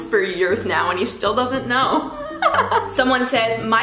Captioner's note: laughs